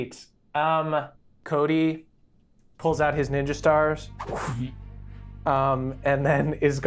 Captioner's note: imitates stars whooshing